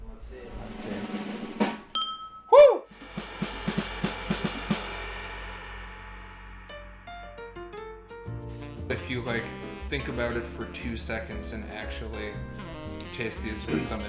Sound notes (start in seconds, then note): 0.1 drum roll; 1.9 ding